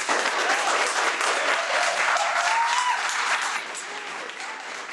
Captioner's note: audience cheers and applauds